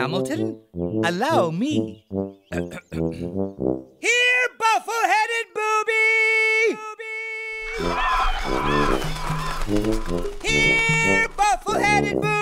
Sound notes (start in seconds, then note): 2.6 clearing of throat; 7.6 squawking of birds